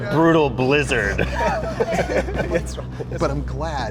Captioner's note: Pedro laughs